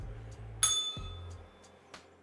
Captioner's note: bell rings